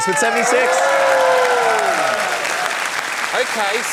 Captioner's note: cheering, applause